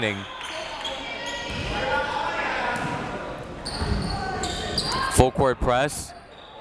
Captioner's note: crowd members shouting